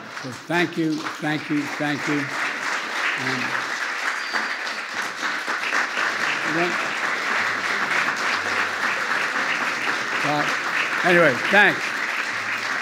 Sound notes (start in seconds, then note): 0.0 laughter and applause; 3.7 applause